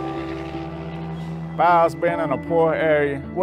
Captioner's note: truck engine roaring